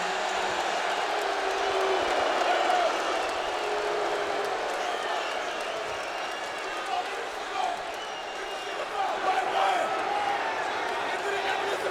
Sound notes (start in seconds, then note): 0.1 crowd clamoring continues; 6.6 Rusev speaking in Russian